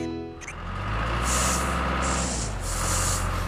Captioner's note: engine Running